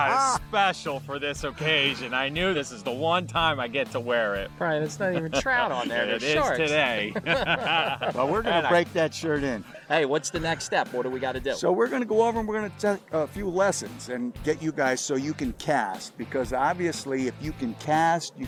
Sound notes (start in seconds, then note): 0.1 laughs; 5.0 laughs